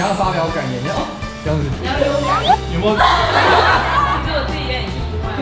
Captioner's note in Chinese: 哄堂大笑